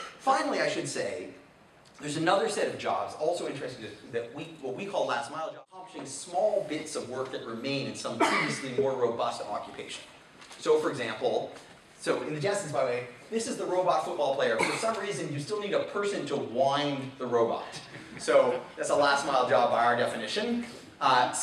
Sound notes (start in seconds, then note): 8.2 man coughing